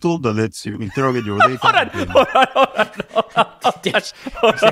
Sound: laughing

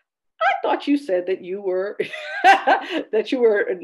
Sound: laughing

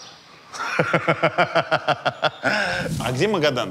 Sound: laughs heartily

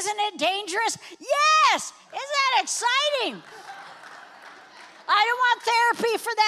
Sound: congregation applauds

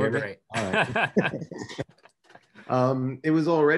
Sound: laughs loudly

